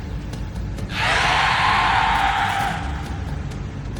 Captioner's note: snake growls